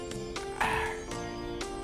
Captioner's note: clears Throat